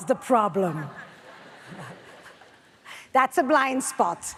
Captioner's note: audience laughs